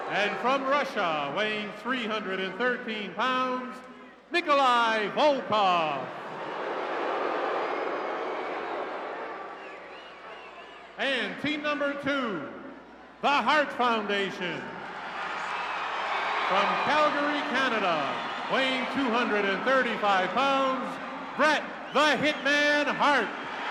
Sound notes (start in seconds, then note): 5.7 crowd booing; 14.8 crowd cheering